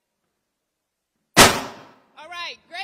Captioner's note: microphone pops